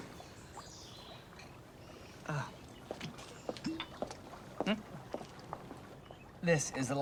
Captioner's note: birds chirping; water trickling